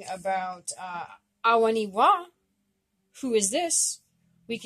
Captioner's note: speaking Abenaki Language